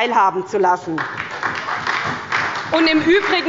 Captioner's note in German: Beifall bei der SPD